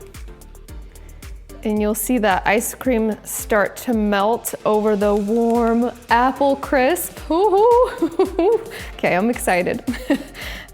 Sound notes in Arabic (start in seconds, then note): 7.8 يضحك